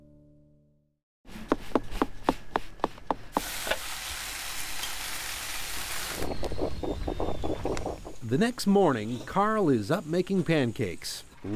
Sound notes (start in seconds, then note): 3.0 sounds of breakfast cooking